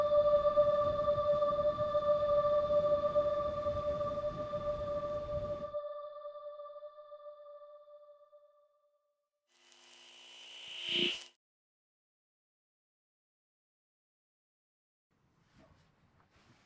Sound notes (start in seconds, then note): 9.6 static crackles and swooshes